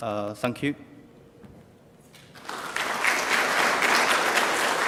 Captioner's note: clapping